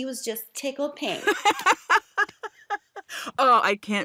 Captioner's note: laughs